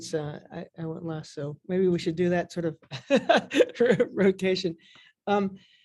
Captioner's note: chuckles